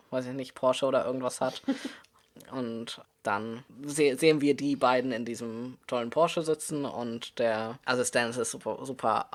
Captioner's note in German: lacht